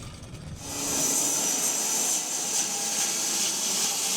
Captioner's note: log saw whirring